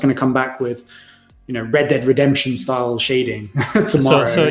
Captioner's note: laughs